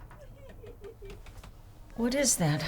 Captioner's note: sobbing